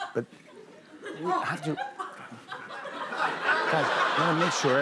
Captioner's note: laughter